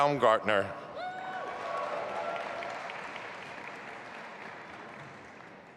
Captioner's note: audience applauding